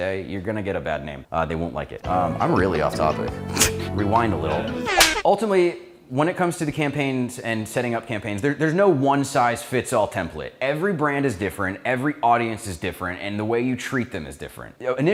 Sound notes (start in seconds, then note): 4.8 laughs; 5.0 clap sound